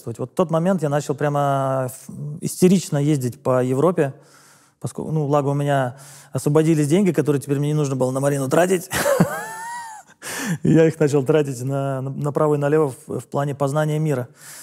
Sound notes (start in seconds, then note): 9.0 laughs